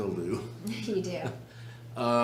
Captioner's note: laughs